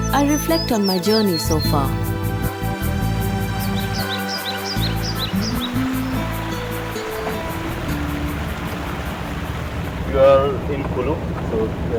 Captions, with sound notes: I reflect on my journey so far. (soothing music) (birds chirpping) (river babbles) You are in Kullu.